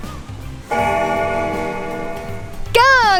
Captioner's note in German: Glockenläuten